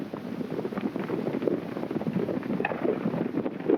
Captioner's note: hooves clopping